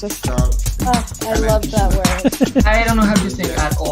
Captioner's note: laughs